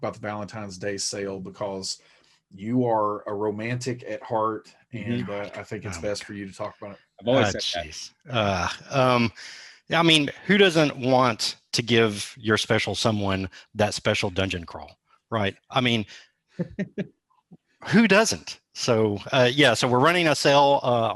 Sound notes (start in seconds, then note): 15.4 laughs